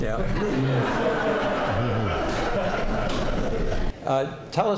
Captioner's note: laughter